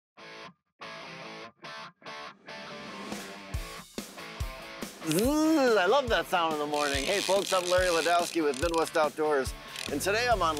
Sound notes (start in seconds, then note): 0.9 upbeat music; 6.6 fishing reel zinging